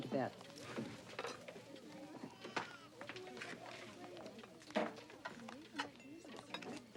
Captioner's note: people murmuring; baby crying